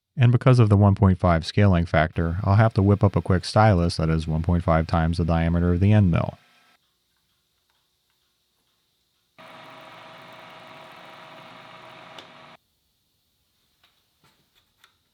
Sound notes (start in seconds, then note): 9.4 machine whirring